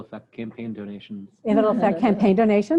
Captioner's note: laughter